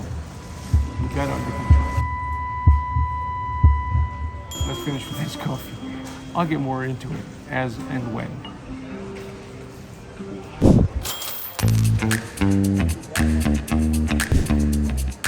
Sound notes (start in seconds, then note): 2.0 buzzing and heartbeating